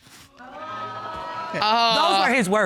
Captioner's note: audience gasping